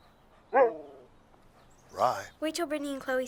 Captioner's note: Buck barks